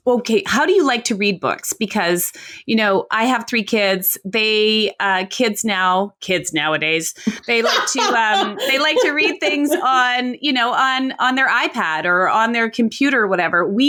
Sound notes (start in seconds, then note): 7.2 laughs